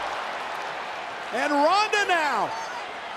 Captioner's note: crowd cheering